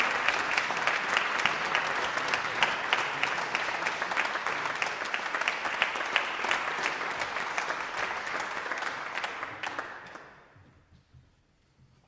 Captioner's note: applause